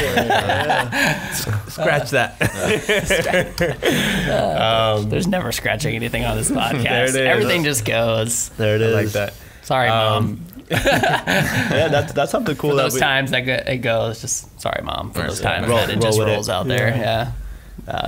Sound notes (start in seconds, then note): 0.0 laughing; 10.6 laughing